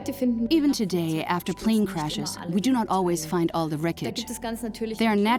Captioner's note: in German; dubbed in English